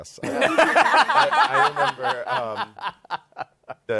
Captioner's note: laughter